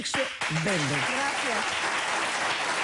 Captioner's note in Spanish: aplausos